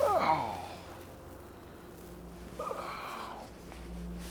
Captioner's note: James groaning